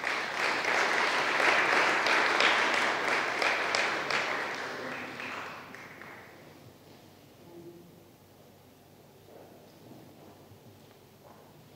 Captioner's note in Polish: oklaski